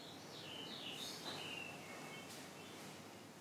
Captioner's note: birdsong